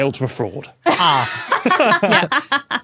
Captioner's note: guests laughing